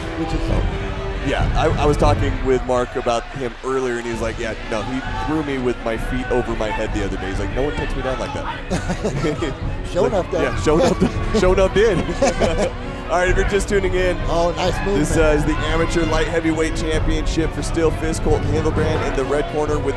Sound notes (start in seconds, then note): 8.4 both laugh